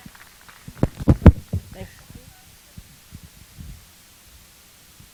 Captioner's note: applause